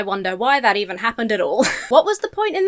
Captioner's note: laughs